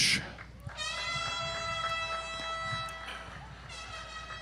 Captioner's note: audience applauds